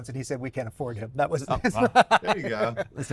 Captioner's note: laughs